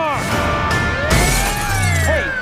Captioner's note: screaming